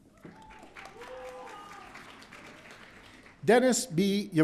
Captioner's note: audience cheering